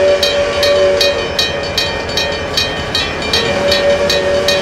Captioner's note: PRR K4s whistle; railroad crossing ringing; PRR K4s whistle